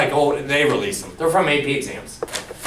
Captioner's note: none